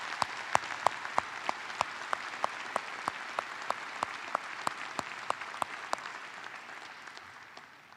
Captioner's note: applause